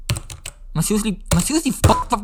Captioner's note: keys taping